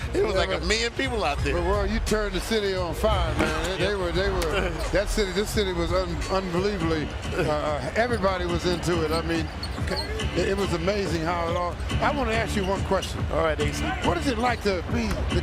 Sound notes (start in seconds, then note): 7.7 laughing